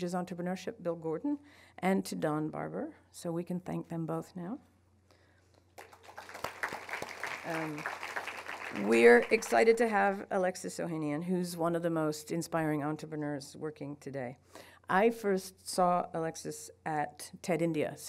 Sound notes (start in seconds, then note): 5.7 applauding